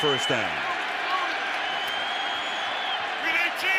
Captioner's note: crowd cheers